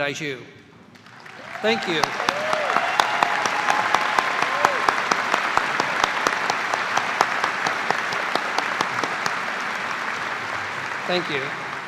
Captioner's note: cheers and applause